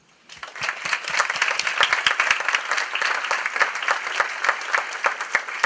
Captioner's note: applause